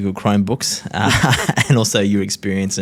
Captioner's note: laughs